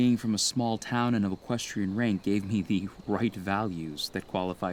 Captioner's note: chuckling